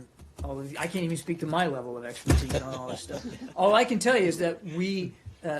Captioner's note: laughter